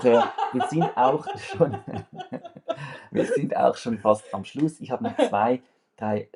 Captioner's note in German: gelächter